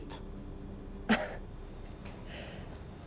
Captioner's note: laughs